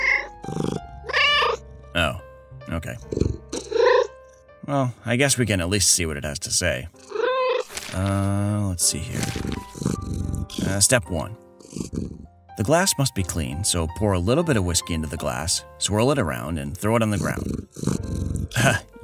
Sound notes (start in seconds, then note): 1.0 meow; 3.0 meow